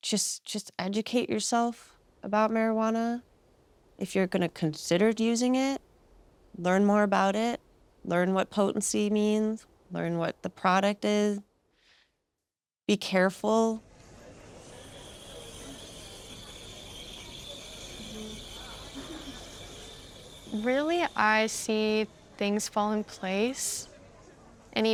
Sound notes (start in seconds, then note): 14.8 machine whistling